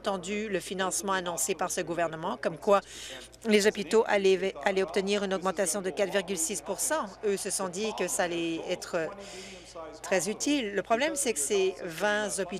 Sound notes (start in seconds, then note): none